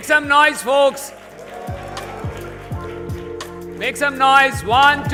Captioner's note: cheers, applause